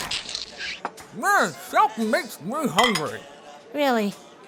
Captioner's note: mouth full